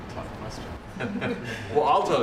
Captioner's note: laughter